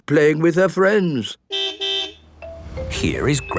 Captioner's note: car beep